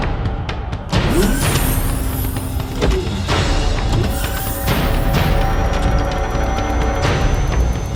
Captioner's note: Starship Phoenix door opens, then closes; Starship Phoenix engine starting up